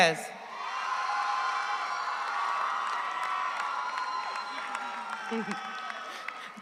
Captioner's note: audience cheers; audience applauds